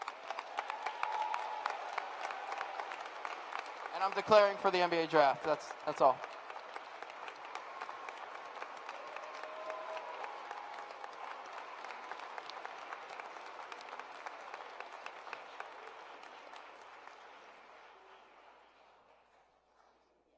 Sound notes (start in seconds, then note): 13.5 cheers and applause